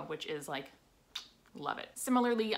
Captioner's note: lips smack